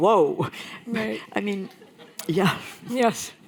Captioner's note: laughter